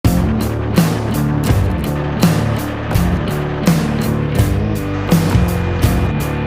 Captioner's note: tommy gun firing; percussive rock music